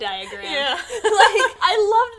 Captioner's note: laughter